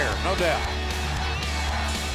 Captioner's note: crowd cheering